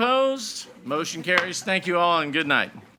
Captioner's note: gavel banging